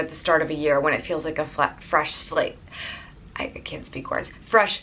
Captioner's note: stutters